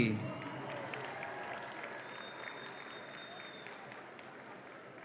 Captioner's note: audience applauds and cheers